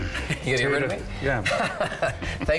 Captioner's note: laughs